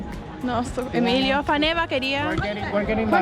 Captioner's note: speaking foreign language